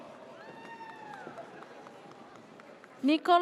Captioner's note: audience cheers